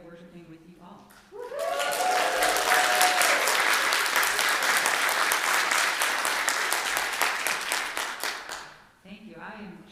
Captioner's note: loud cheers and applause